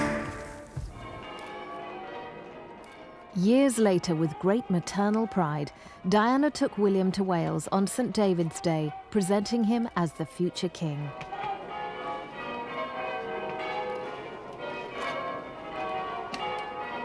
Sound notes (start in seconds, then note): 13.3 bells ringing